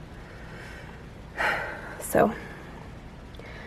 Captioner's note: sigh